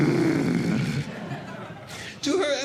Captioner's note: growling; audience Laughing